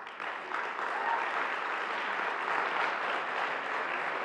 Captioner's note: audience applauds